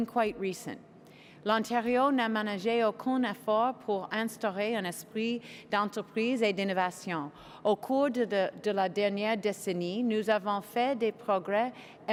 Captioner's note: speaking French